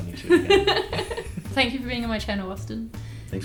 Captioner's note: laughs